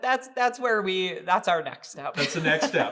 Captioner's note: laughing